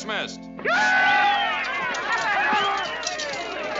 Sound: soldiers whooping

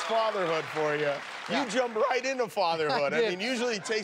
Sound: cheers and applause

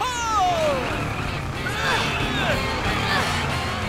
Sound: grunting

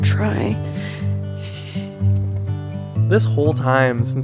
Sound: Joel sniffles

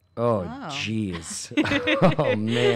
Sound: laughs

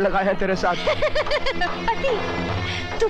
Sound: laughs

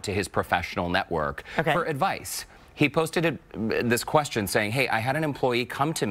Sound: laughter

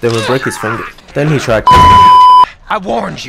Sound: beep

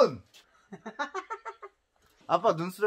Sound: already excited hahahahahaha

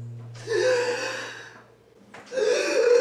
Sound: person speaking in foreign language; gasps

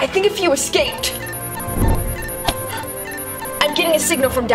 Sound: instrument beeping

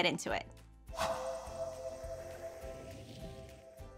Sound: whoosh

